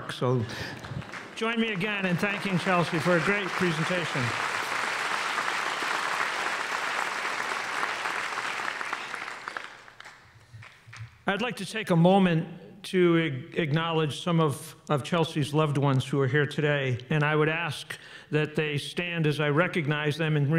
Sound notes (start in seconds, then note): 6.2 applause